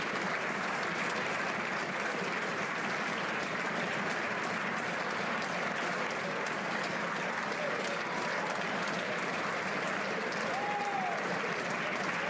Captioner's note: applause